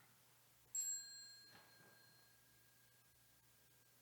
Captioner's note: bell chimes